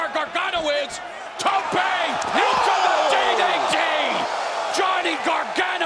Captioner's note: crowd cheering